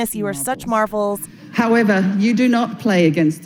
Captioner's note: soundbite of archived recording